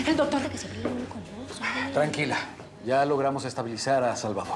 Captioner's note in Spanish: miriam murmura